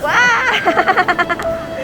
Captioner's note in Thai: กรีดร้อง